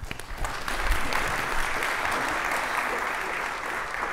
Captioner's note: applause